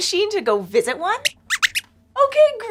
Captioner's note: squeaks squeaks